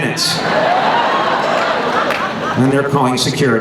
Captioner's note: laughing